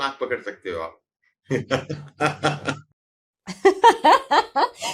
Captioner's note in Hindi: हंसी